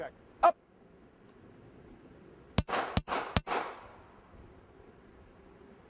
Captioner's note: three shots fired